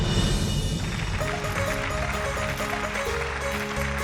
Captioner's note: applause